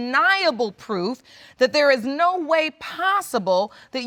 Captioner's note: none